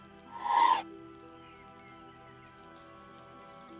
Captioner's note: air whooshing